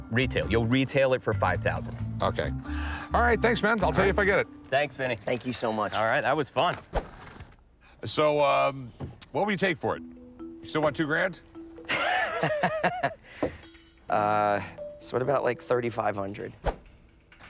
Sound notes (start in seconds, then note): 11.8 laughs